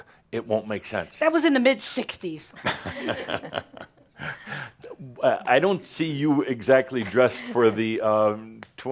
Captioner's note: Adamus chuckles